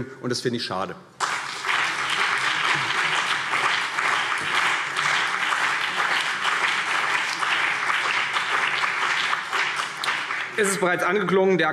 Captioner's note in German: Beifall CDU und BÜNDNIS 90/DIE GRÜNEN